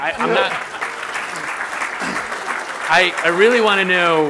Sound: applause

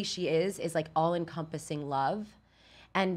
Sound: none

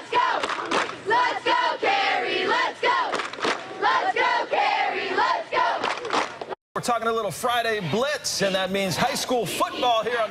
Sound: cheering

